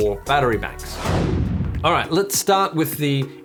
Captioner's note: air whooshes